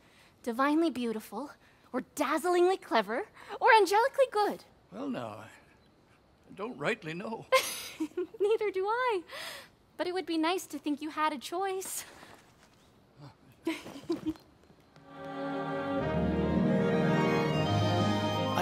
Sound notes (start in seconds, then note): 7.3 laugh; 13.9 running